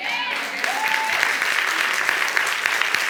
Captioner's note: audience applauding and cheering